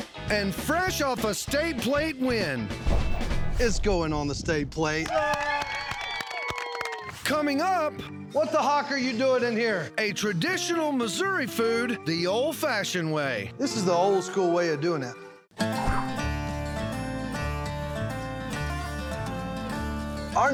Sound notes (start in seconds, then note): 5.0 cheering, clapping